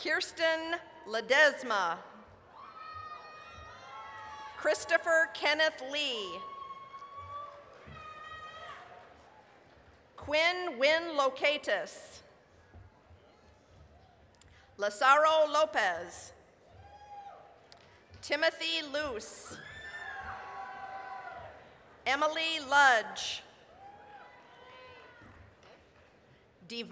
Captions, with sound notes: KIRSTEN LEDESMA... (applause, cheering) CHRISTOPHER KENNETH LEE... (applause, cheering) QUYNH LOCATIS... (applause) LAZARO LOPEZ... (applause, cheering) TIMOTHY LUCE... (applause, cheering) EMALEE LUDGE... (applause, cheering)